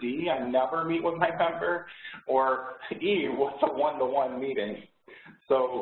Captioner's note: laughs